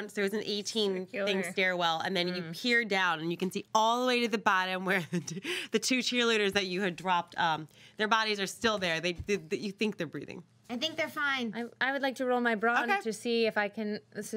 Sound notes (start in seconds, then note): 5.3 laughs